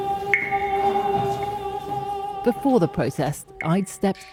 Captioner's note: chanting